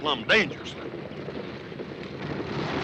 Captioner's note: approaching hoofbeats